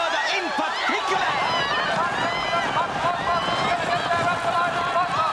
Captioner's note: kerumunan bersorak